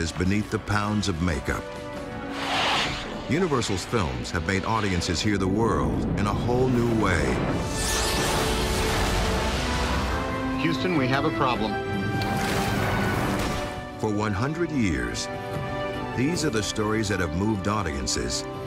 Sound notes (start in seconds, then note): 8.4 whooshing explosion